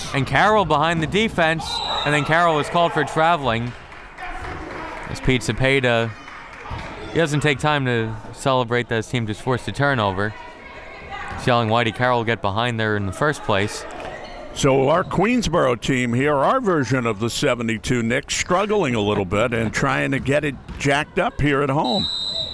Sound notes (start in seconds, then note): 1.7 whistle tweeting; 21.8 whistle tweeting